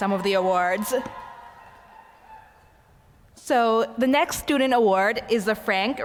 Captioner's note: applause